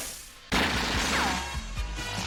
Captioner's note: boom, whoosh; machine guns firing, ricochets